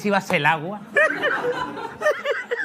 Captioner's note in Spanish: Risas